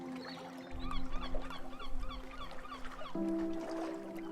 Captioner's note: sound of lapping waves and birds chirping